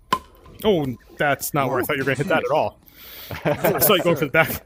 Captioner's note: < laughs>